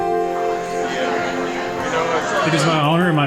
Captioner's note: people chattering